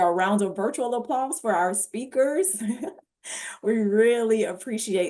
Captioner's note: chuckles